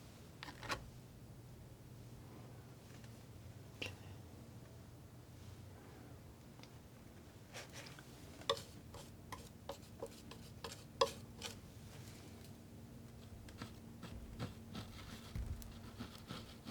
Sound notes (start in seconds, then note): 4.0 scratching